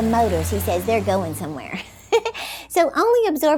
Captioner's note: laughs